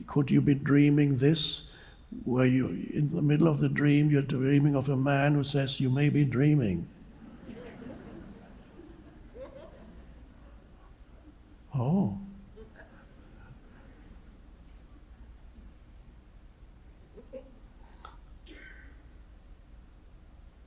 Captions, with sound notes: Could you be dreaming this where in the middle of the dream, you're dreaming of a man who says you may be dreaming. (audience laughs) Oh!